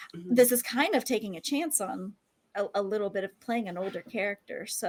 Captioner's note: none